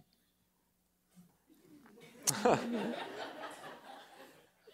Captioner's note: laughter